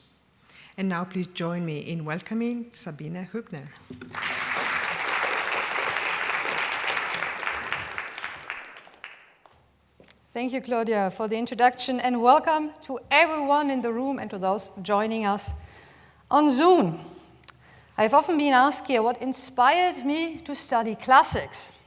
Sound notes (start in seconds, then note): 4.0 applause